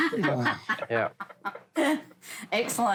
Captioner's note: laughter